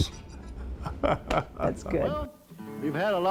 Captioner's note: laughing